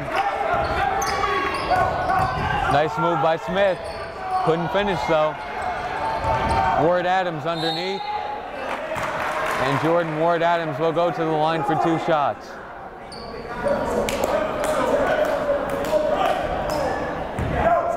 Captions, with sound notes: (yelling) Nice move by Smith, couldn't finish though. Ward-Adams underneath, and Jordan Ward-Adams will go to the line for two shots. (chattering)